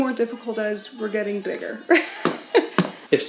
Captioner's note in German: lacht